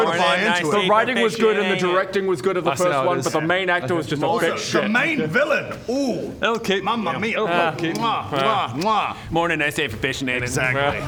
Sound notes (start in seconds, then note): 8.2 mwah mwah